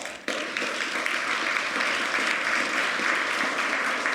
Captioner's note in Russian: Аплодисменты